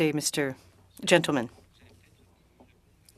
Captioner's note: speaking French